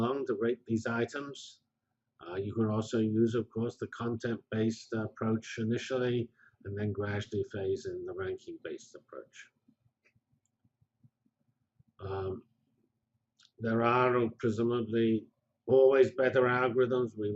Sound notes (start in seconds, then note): 9.9 pause